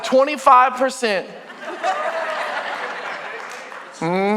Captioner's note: congregation laughing